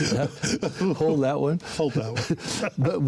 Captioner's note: chuckles